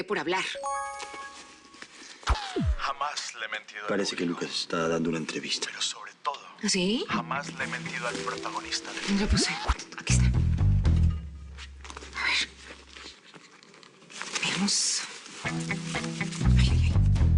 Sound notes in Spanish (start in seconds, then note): 0.6 Suena el celular